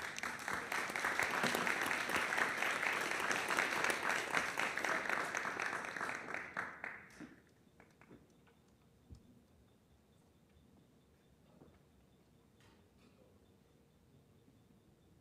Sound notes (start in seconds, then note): 0.0 applause